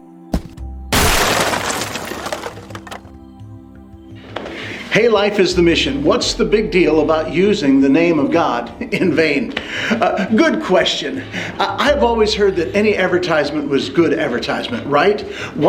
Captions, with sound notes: (loud explosion) (upbeat music) - Hey, Life is the Mission. What's the big deal about using the name of God in vain? Good question. I've always heard that any advertisement was good advertisement, right?